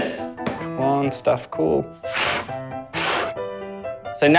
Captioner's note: blows